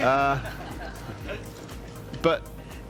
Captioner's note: audience laughs